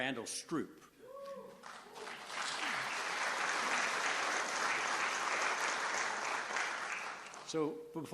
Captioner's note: applause